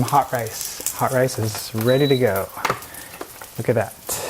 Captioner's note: rice cooker beeps